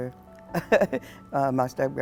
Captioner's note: laughs